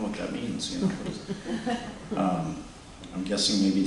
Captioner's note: laughter